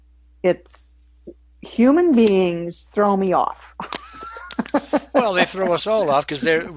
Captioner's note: laughs